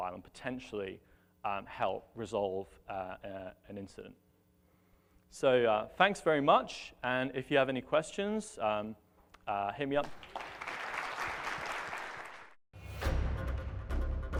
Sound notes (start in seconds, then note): 10.0 applause